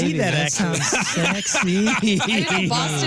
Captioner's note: laughing